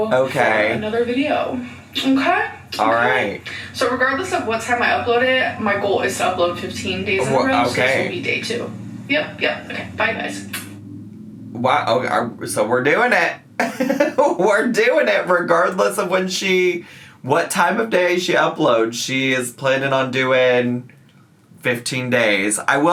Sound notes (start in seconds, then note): 10.8 lips smacking; 13.6 laughs